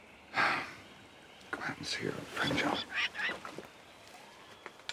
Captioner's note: sighing